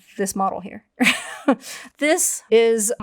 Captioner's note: chuckles